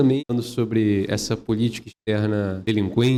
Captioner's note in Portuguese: Falando